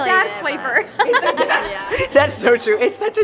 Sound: laughing

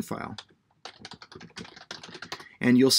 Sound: keyboard clicking

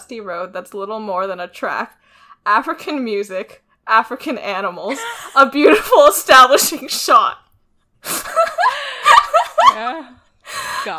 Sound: laughs

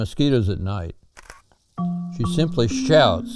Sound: camera clicks

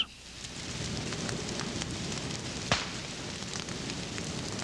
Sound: crackling fire

